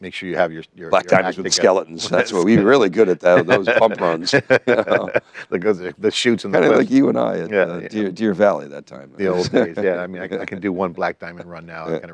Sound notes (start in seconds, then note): 4.7 both laughing